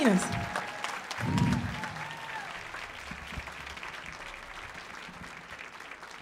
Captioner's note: audience cheering and applauding